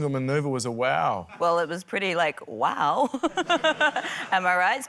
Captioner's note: laughs